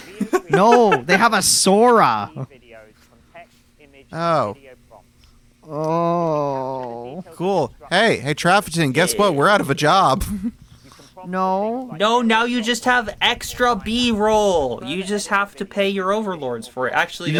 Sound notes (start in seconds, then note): 0.0 laughs; 5.7 moans in fake videos